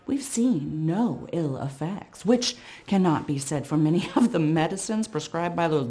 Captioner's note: none